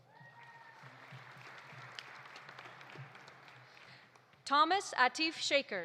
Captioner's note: audience cheering; audience applauding